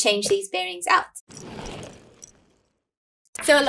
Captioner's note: roller skates passing